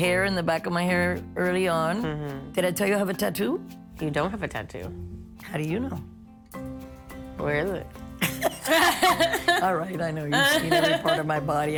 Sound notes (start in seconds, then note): 8.2 laughing